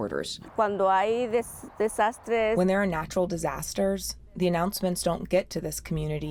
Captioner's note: through translator